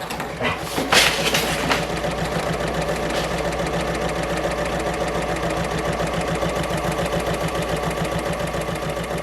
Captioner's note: sewing Machine Sounds